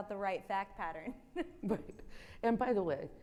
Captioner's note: chuckles